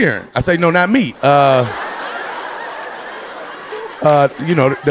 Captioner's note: audience laughing